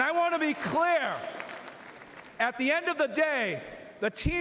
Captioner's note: cheering